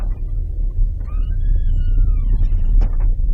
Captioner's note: hinges creaking